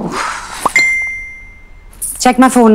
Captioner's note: Cell phone dings